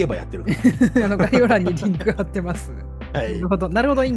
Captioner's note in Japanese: 笑い